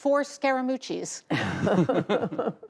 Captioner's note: laughter